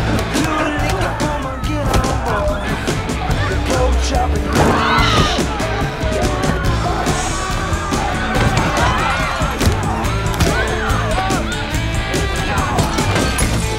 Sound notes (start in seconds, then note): 4.6 women screams; 10.4 rock music continues